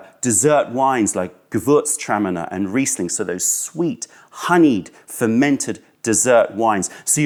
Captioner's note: german